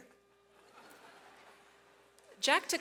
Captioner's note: audience laughs